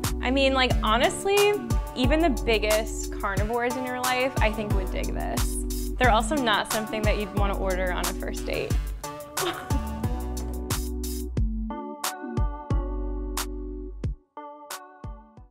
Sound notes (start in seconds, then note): 9.4 laughs; 10.3 upbeat music